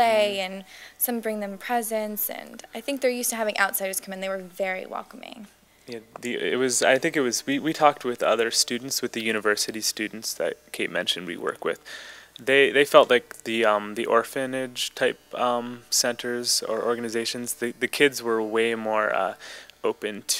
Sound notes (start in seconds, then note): none